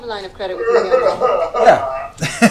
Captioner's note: cries